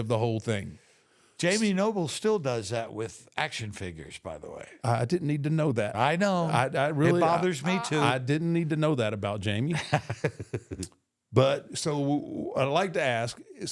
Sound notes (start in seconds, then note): 9.6 Michael laughs